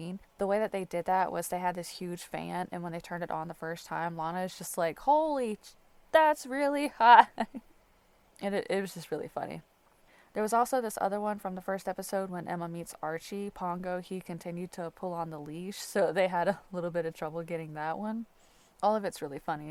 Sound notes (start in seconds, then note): 7.1 light laughter